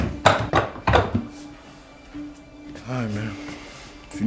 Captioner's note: objects clattering